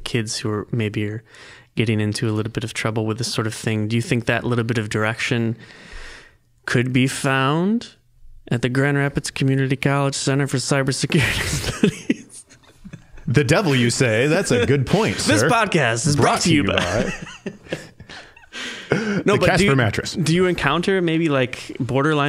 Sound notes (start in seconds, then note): 11.2 laughing; 16.5 both laughing